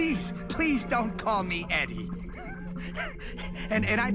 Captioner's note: frustrated laughter